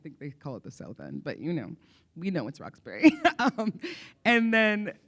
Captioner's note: laughs